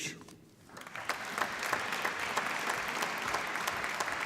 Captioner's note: applause